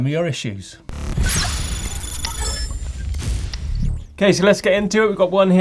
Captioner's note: electronic buzzing